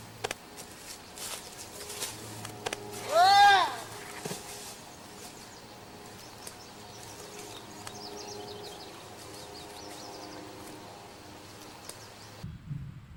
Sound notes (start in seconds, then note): 2.9 yells